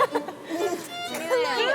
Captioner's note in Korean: 푸흡